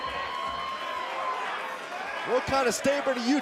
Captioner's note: cheers & applause